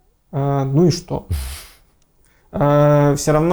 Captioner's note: is laughing